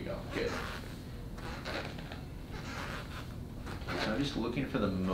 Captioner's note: sneakers squeaking